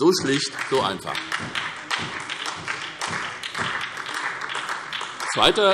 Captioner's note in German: Beifall SPD